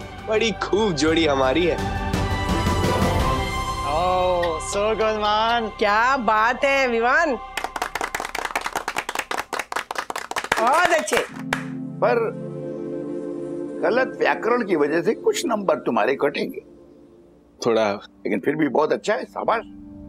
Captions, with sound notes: We're a great team. Wow! So good, man! Brilliant, Vivaan. [clapping] Very nice. But you'll lose a few marks for incorrect grammar. - Yes. - But it was very good. Good job.